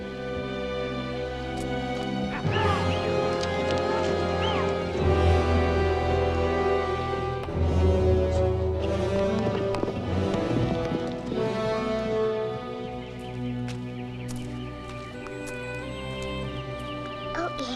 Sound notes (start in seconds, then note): 2.4 moves to dramatic foreboding music; 8.8 hooves thudding rapidly; 14.9 moves to low melancholy music